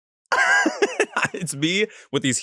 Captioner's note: laughs